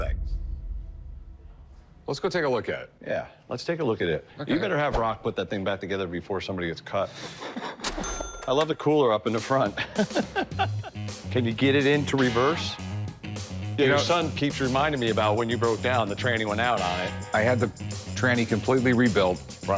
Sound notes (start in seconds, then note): 7.1 Rick laughs; 9.7 laughs